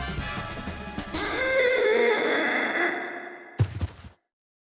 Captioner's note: loud moan